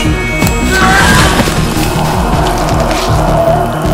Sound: andrew cries

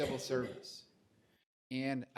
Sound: laughter

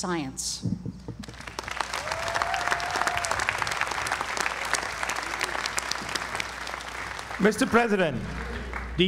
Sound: applause

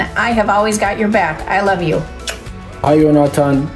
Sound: kiss

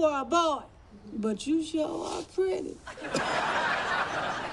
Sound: chuckles

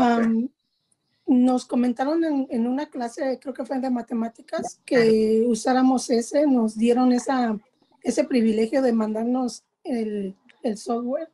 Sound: speaking spanish

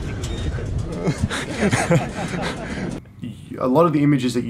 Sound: laughs

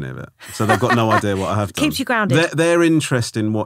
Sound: laughing

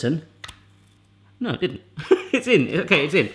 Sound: laughs

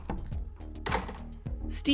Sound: Stevie opens and closes the door

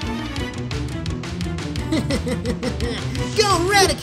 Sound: laughs

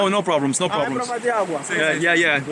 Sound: local speaking Portuguese

